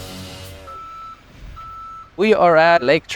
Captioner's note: upbeat music; machinery beeping